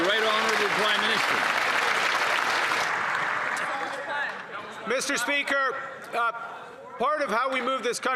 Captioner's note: cheering and Applause